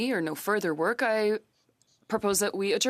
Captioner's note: speaking French